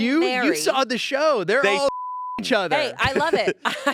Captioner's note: beep